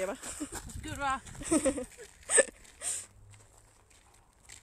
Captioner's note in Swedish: skrattar